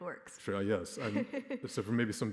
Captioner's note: laughing